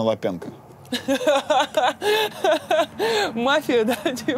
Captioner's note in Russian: Ира смеётся